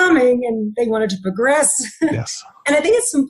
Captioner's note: chuckling